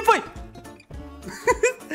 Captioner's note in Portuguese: risos